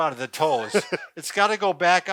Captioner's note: laughing